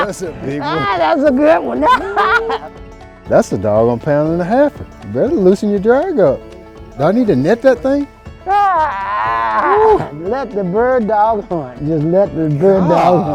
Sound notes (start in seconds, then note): 8.5 man groaning